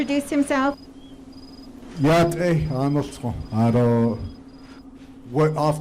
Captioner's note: speaks in Navajo